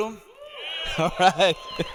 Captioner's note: audience cheering